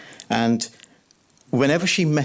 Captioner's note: none